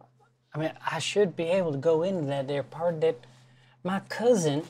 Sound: slurred Southern drawl in gentle voice

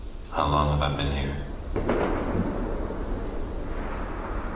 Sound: thunder

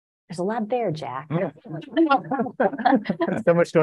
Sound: laughter

